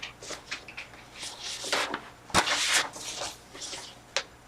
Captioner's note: flipping through pages